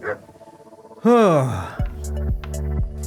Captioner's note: sighs